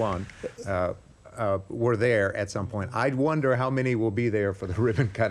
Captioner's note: laughter